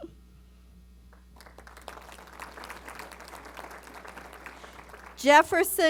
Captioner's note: applause